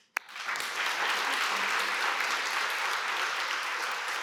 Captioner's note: applause